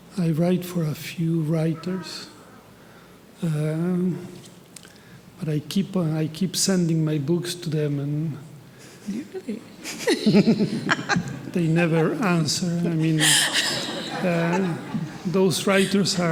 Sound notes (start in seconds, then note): 8.8 panelists laughing; 14.7 attendees laughing